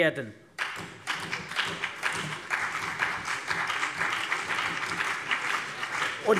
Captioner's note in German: Beifall CDU und BÜNDNIS 90/DIE GRÜNEN